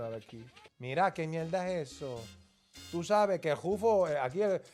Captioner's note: speaking Spanish